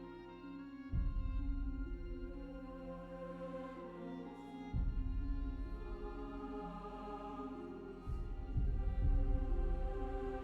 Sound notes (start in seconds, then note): none